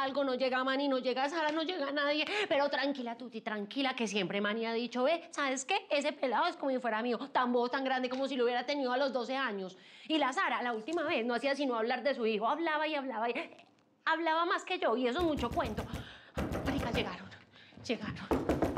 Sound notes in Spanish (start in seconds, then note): 16.3 golpes en la puerta